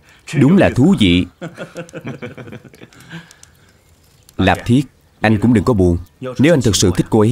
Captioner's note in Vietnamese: Tiếng cười